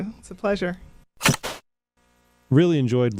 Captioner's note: static